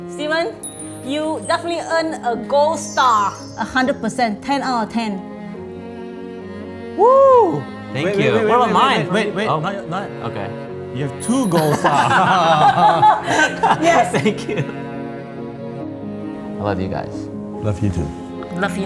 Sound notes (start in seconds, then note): 11.8 laughs